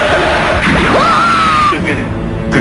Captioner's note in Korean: 강태양의 비명 소리